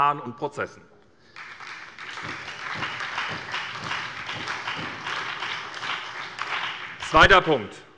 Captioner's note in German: Beifall bei der SPD und bei Abgeordneten der FDP